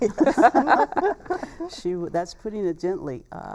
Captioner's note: laughter